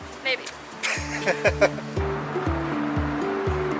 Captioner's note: laughing